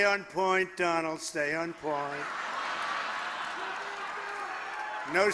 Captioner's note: laughter